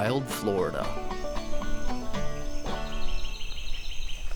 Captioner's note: birds chirping